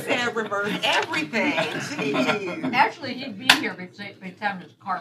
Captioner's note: laughter